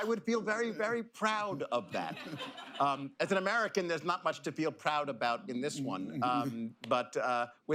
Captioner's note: laughter